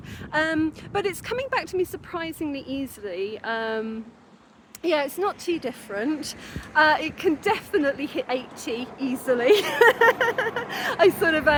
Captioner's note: laughing